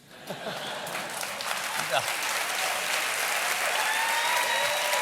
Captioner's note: laughter; applause; cheers